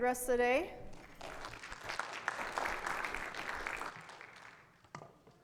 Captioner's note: audience clapping